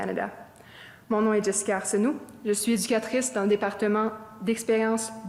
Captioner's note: speaking French